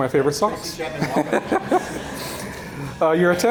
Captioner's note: laughing